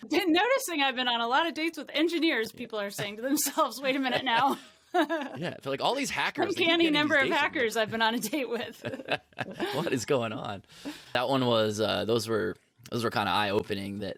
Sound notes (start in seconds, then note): 5.0 laughs; 9.0 both laugh